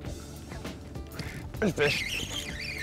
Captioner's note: reel squeaking